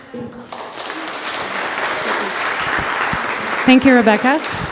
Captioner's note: audience applause